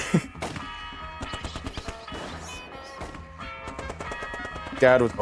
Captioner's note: chuckling; rapid gunfire banging